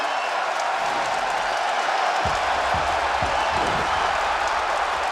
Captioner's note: audience applauds and cheers